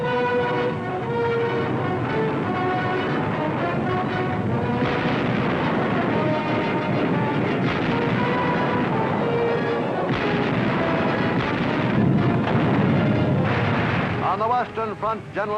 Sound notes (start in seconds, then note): 0.1 artillery blasting; 0.1 dramatic music; 5.4 explosions boom